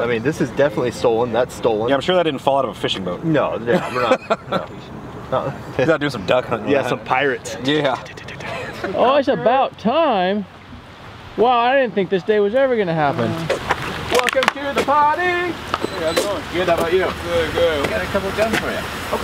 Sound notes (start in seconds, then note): 3.6 man laughs; 8.4 both chuckle